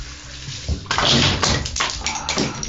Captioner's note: plastic clinks